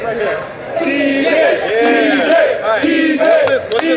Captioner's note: crowd